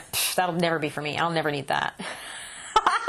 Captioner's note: laughter